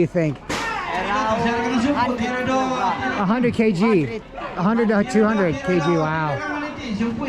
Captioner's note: talking in distance